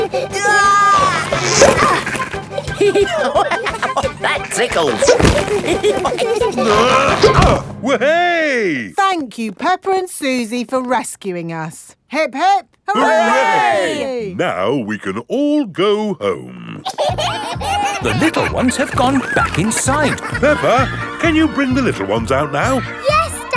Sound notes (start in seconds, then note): 0.9 giggling; 3.0 laughing; 5.7 all giggling; 6.5 grunting; 16.8 kids giggling